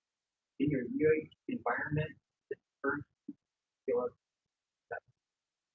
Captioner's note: man speaks through warped and choppy audio